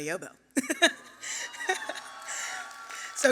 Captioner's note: laughter and applause